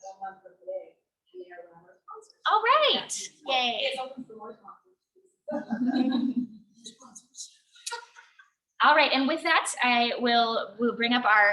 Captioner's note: background voice